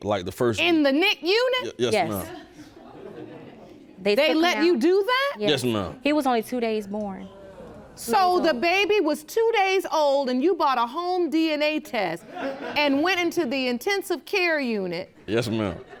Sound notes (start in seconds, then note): 2.3 audience gasps; 5.8 audience groans; 7.8 audience laughs